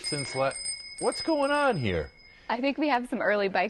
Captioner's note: bicycle bell